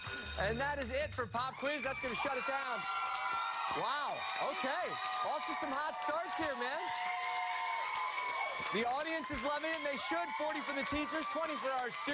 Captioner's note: cheers and applause